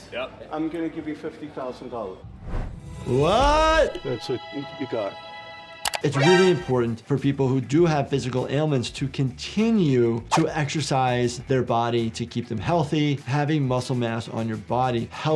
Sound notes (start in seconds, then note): 2.8 victorious music; 4.0 mouse clicking; 5.9 dramatic music